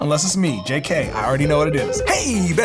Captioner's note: phone ringing